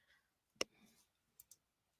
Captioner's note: no audio